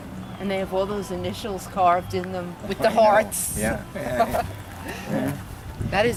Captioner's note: laughs